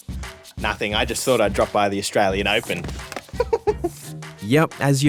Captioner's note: chuckles